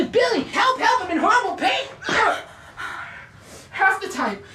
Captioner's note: groans